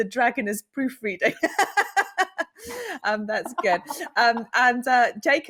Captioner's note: chuckles